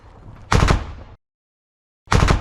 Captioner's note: Russian BMP fires a shot